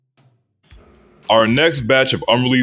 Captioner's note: beatboxing Transition